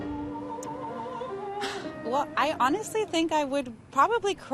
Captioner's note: sighs